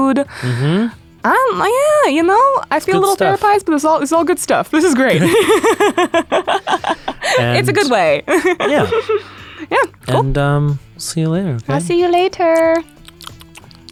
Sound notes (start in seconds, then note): 4.8 laughs